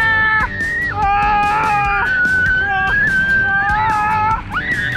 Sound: both screaming

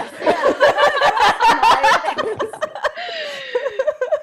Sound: panel laughs

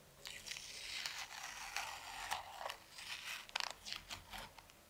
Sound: tape scraping

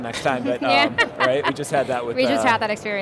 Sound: crowd chuckles

